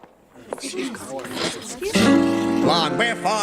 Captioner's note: crowd murmuring